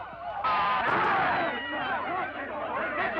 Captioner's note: shouting